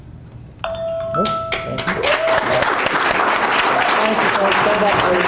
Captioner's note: audience cheering and clapping